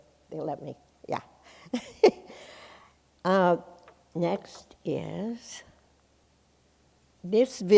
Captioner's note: chuckles